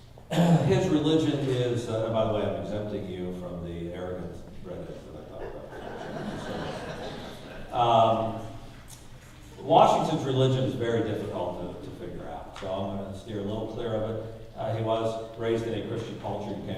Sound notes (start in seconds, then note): 5.3 audience laughing